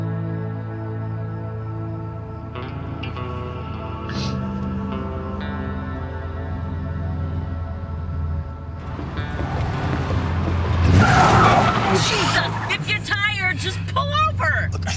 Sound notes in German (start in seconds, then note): 8.8 Reifen quietschen